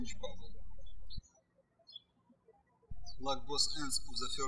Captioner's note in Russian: птички щебечут